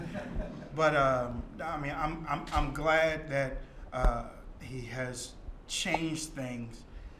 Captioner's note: laughter